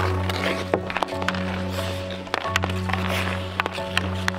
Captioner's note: skates scraping